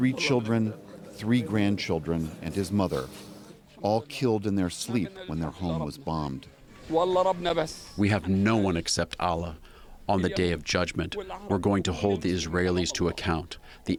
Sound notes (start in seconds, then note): 8.5 through translator